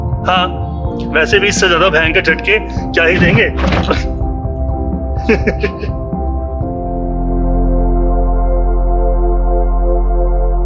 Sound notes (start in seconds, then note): 5.2 car jolted by a speed-breaker, both laugh